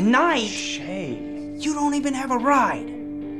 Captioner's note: shushing